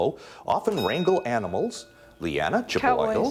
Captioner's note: bell dings